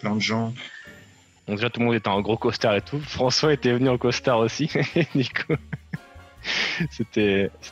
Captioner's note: laughs